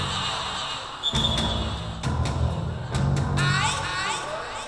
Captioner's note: whistle blowing